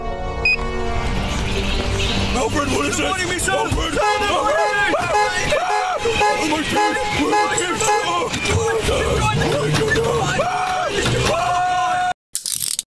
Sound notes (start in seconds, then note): 3.7 both screaming